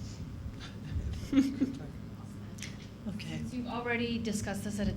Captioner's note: board members chuckling